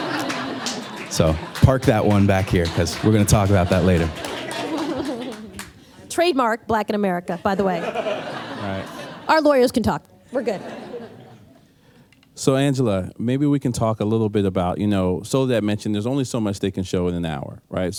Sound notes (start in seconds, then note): 0.0 laughter; 5.0 clapping; 7.4 laughter